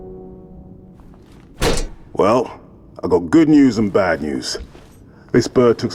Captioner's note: slam